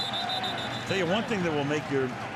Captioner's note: whistle blows